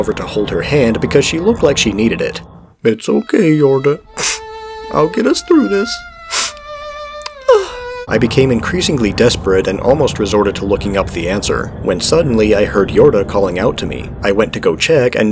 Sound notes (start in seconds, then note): 6.3 sniff; 7.3 cries in frustration